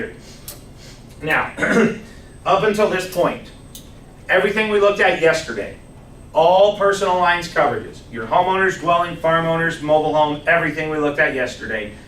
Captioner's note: clears throat